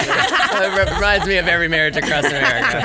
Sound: laughs

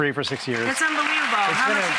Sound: audience applauds

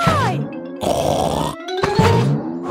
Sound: snorts

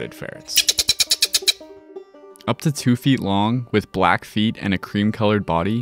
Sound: ferret chattering

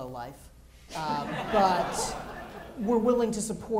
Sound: laughter

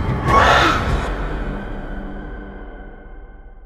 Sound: screeching

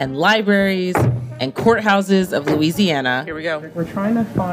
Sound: car door slams

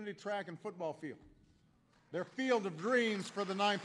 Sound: applause

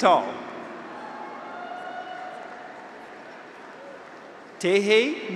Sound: graduates cheer; audience applauds

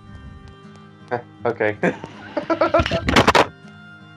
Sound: laughs

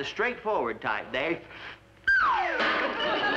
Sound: whistle

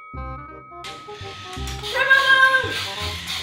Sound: robots whirring

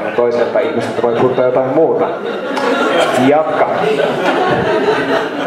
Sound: laughter

